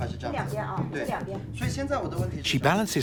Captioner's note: speaking Tibetan